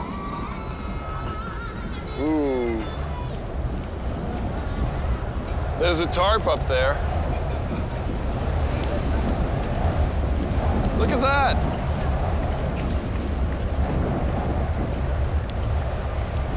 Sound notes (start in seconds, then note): 3.1 wind blowing